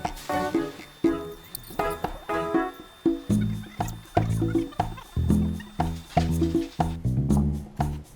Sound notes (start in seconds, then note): 2.7 sped up voice squeaks